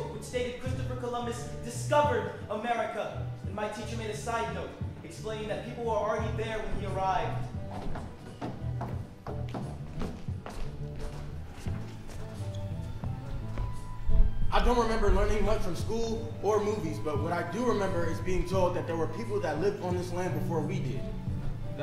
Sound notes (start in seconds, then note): 8.7 group footsteps